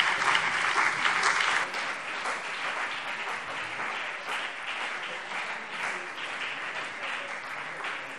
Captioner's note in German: Beifall BÜNDNIS 90/DIE GRÜNEN und CDU